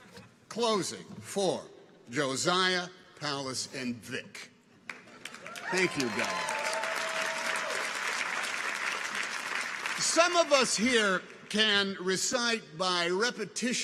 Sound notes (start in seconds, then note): 7.3 audience applauds; 7.3 people cheer